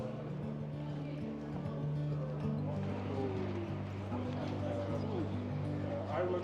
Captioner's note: indistinct chatter